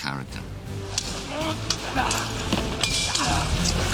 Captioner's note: both grunting